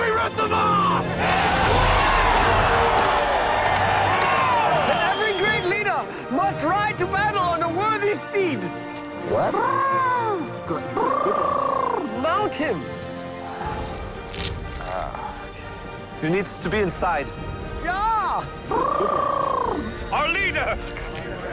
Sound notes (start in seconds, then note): 1.6 crowd Cheering